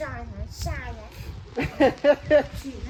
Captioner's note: laugh